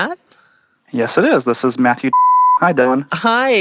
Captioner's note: beeps